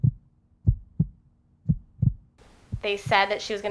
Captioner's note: beating heart sound